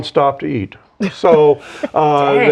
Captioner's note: laughs